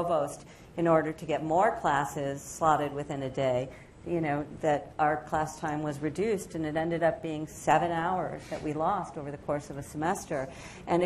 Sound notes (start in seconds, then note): none